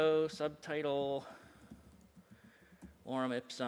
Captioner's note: computer typing